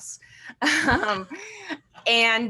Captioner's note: chuckles